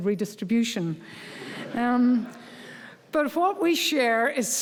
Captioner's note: audience laughing